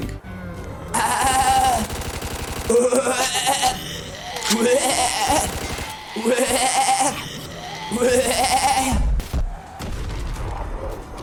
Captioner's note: zombie sounds